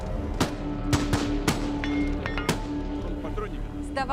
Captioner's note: rounds being fired